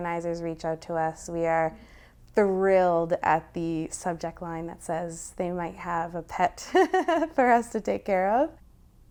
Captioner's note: laughter